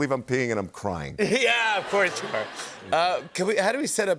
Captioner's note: laughter